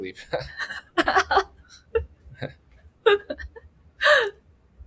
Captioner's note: laughs